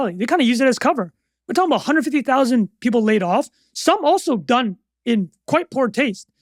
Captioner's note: none